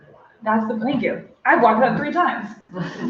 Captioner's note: laughter